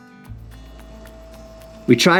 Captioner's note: machinery humming